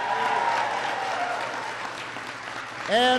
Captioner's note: applause